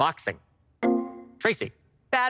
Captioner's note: electric chime